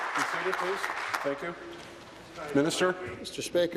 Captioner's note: applause